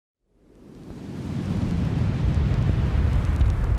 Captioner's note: air whooshing